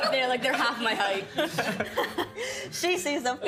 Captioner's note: group laughing